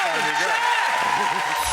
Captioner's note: audience cheering; audience clapping